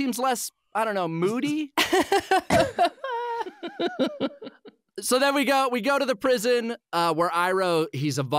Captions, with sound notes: I don't know, moody?" [laughing] So then we go, we go to the prison, uh, where Iroh, he's evolved now.